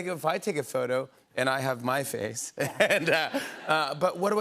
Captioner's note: laughter